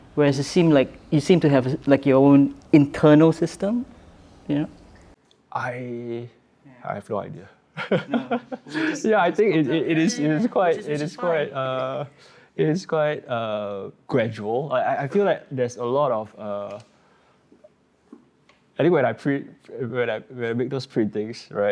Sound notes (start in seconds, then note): 7.8 laughs